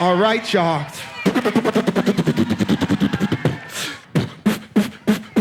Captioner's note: beat boxes